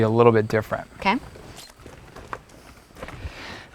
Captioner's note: boots shuffling on dirt, no additional audio